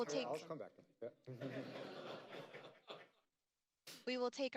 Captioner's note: laughter